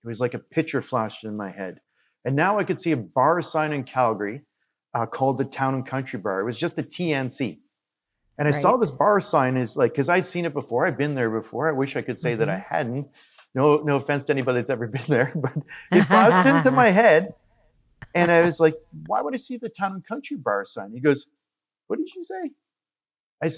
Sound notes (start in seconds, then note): 15.5 laughs